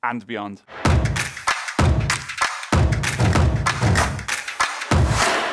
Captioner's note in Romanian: Aplauze